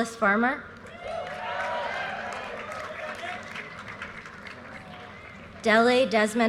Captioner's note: audience cheers and applause